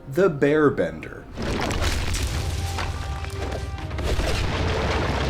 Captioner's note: floor crumbles